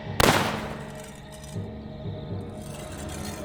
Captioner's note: gun firing